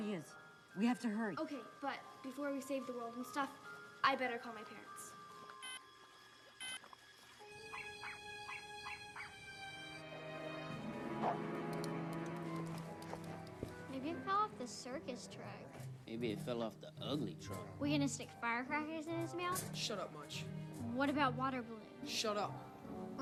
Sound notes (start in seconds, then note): 4.0 beeping; 6.2 dog barking